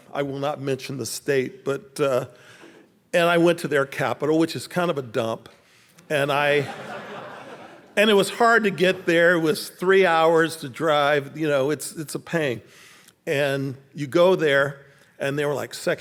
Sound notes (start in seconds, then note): 6.5 audience laughing